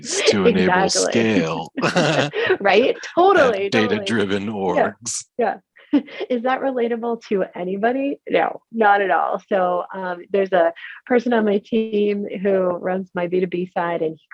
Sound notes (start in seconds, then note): 2.2 both laughing